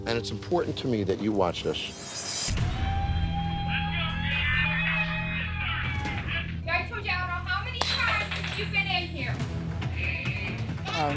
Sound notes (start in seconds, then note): 2.6 crowd cheering; 7.8 glass breaking